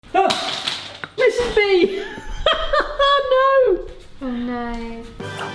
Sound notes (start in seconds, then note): 0.9 clattering; 2.0 laughs